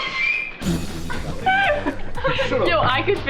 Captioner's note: laughing